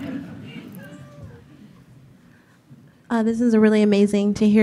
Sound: audience laughing

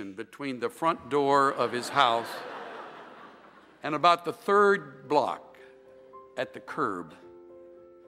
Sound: laughter

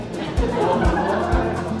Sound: general Chatter

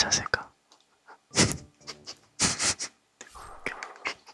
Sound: laughing

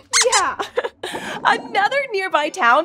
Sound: squeaks squeaking

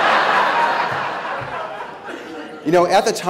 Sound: laughter

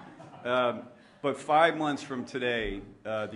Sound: laughter

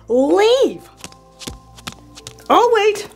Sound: steps crunching

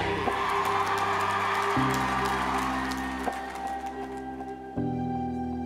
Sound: audience cheering and applauding

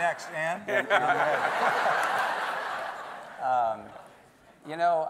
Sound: everyone laughing

